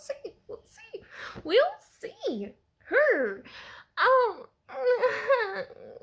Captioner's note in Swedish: osäker och ångestfyllda ljud